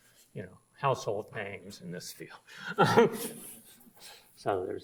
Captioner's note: laughs